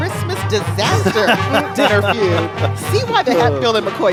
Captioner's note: laughing